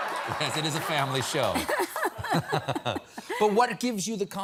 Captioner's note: laughter